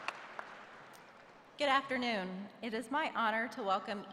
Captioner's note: applause